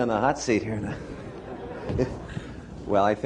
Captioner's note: laughter